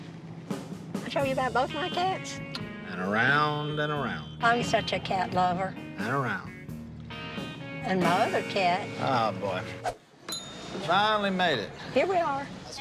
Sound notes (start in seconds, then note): 10.2 bell dings